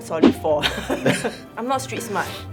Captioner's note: laughing in denial